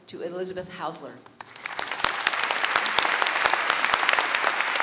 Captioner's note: audience clapping